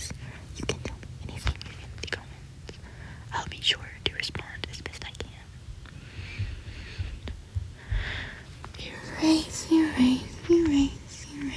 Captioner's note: singsong